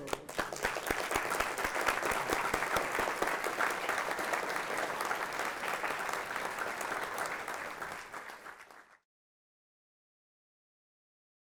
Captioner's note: applause